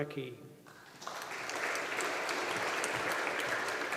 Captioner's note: audience applauding